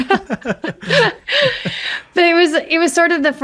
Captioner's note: laughs